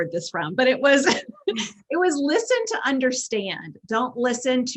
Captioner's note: chuckles